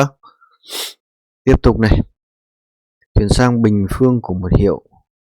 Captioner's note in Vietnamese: khịt mũi